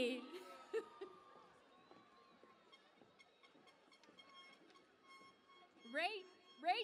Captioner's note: cheering and Applause